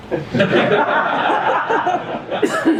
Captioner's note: laughter